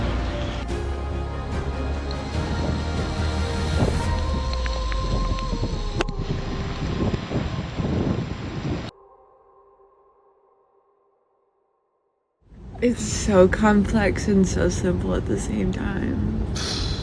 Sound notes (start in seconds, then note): 3.2 wind rustling, light rain